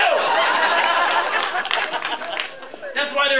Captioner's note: laughter